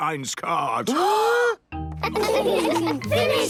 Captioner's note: both gasping